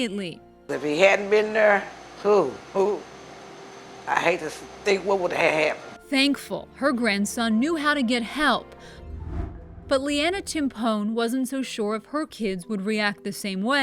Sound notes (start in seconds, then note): 8.9 air whooshing